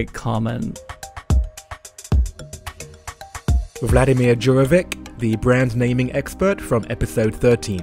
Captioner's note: voiceover